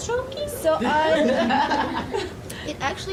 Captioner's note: audience laughing